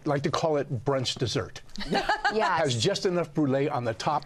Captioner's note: laughs